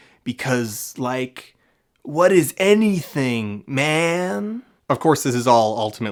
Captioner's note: stoner voice